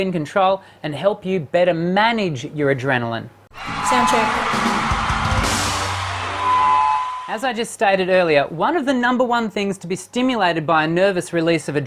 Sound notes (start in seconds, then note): 3.5 audience cheering